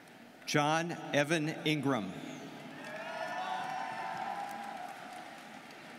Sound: students cheering

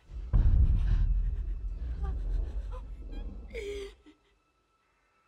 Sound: dinosaur growls

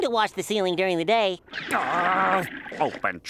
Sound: growling

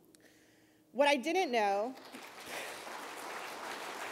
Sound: applause

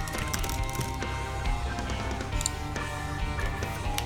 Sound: typing

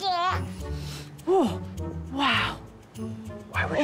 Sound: sniffs

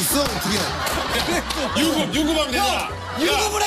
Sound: laughing out loud

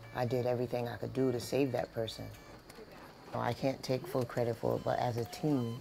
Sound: equipment rattling

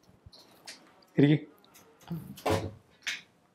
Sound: door Closes

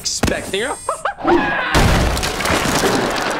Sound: screaming

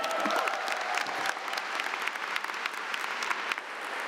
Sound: applause

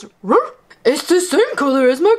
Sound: barks

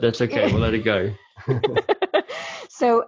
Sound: laughing

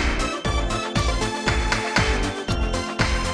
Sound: clap

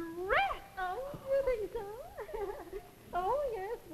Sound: giggles

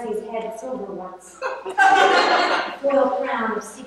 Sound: laughter

